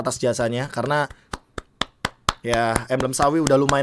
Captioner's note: claps